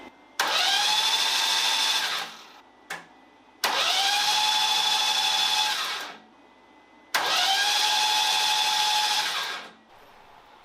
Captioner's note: engine noise